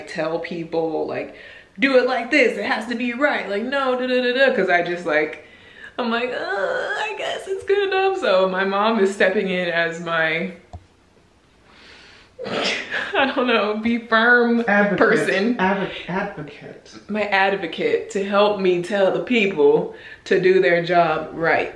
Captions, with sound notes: tell people like, do it like this, it has to be right! Like no, duh-duh-duh-duh-duh-duh, 'cause I just like, I'm like, (groaning uncomfortably) I guess it's good, I hope so. My Mom is stepping in as my (snorts) I don't know, be firm person. - Advocate. Advocate. - My advocate to help me tell the people to do their job right.